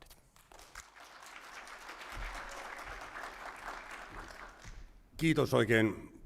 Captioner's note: applause